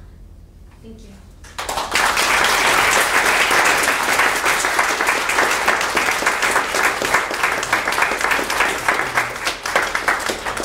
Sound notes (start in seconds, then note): 1.6 audience applauding